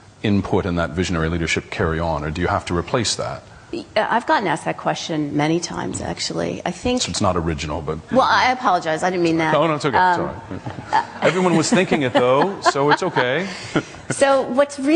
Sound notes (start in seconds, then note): 10.4 laughs